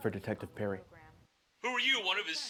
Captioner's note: on phone